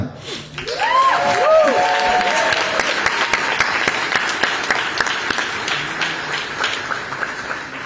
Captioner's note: applause